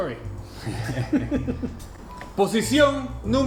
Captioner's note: laughs